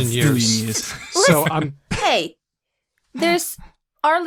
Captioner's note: laughs